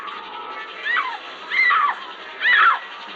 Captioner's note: screaming